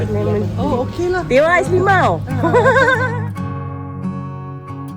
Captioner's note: laugh; background music